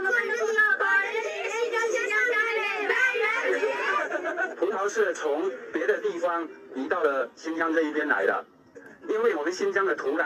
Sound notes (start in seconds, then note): 3.6 laughter